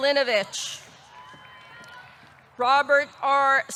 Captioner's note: audience cheering